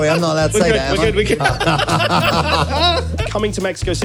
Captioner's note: laughs